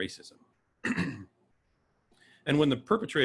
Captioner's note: clears throat